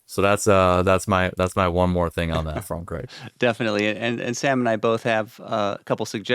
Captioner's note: chuckles